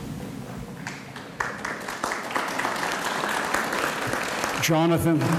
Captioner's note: audience applauds